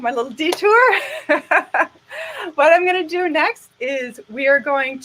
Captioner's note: laughing